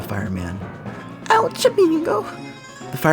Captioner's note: squeakish tone